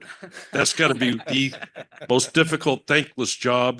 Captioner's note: laugh